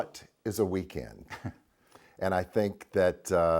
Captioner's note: Alastair laughs